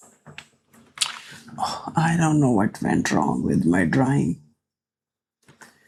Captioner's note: sighs